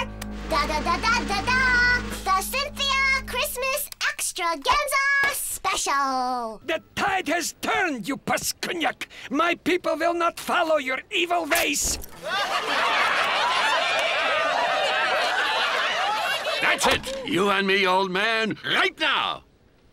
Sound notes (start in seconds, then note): 12.1 crowd laughing